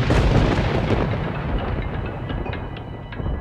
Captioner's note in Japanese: 雷鳴